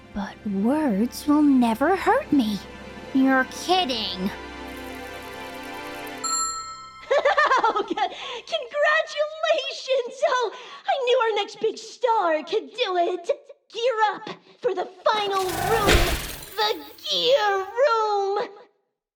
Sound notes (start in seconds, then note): 6.2 ding!; 7.0 spring laughs